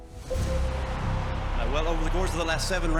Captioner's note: crowd cheering